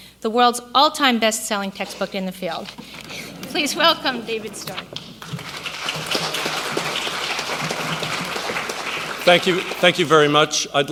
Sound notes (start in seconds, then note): 3.2 audience laughs; 5.0 applause